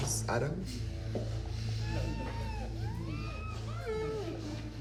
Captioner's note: victims groaning